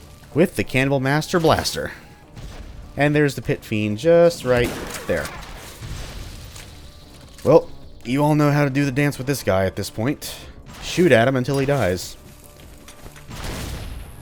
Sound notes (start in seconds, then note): 5.7 boom